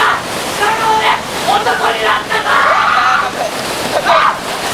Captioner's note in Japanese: 声も枯れる絶叫